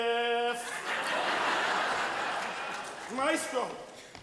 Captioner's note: audience laughs